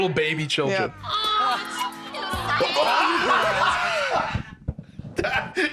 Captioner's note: laughing hysterically